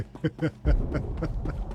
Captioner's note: laughs